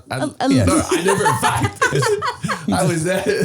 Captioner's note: all laughing